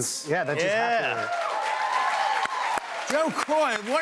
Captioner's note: cheers and applause